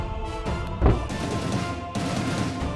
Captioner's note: Mouthing